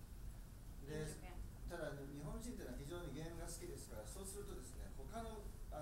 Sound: speaking in foreign language

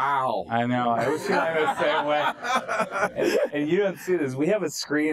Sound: laughter

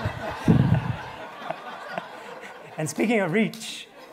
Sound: attendees laughing

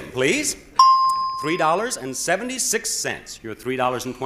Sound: bell chimes

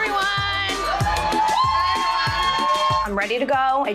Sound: cheering

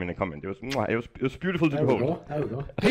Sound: kisses

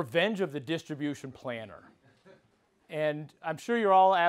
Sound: laugh

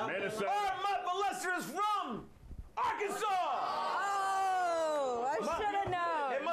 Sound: audience shouts answers; audience cheers

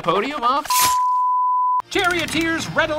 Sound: screen beeping

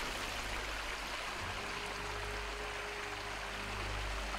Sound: water splashing

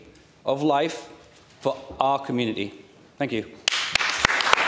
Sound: applause

